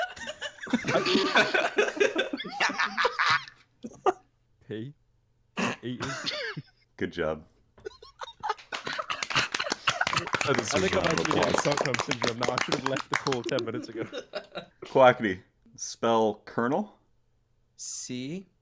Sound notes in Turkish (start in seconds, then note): 8.6 alkış